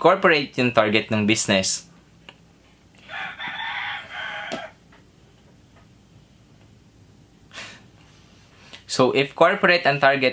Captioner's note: rooster crowing